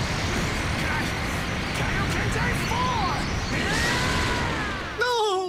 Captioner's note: shouts